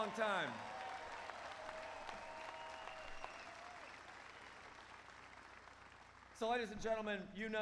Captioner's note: applause